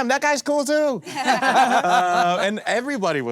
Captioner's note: all laughing